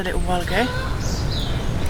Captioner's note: squarking